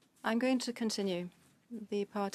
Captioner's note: speaking French